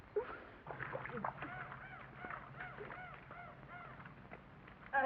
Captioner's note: water splashes